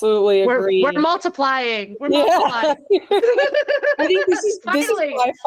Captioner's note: laughing